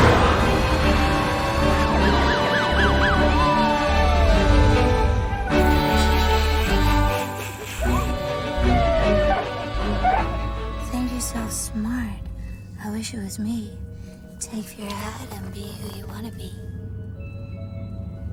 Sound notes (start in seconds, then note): 5.7 snickering; 7.3 siren chirping